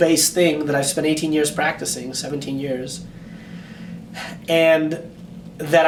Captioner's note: sighs